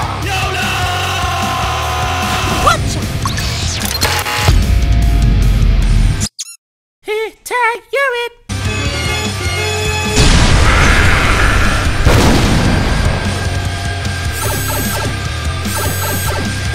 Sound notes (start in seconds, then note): 6.2 squeak; 10.6 Bitch screaming